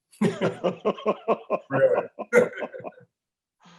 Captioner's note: laughter